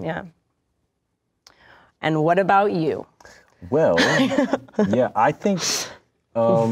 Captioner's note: laughs